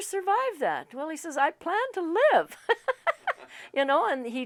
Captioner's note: laughs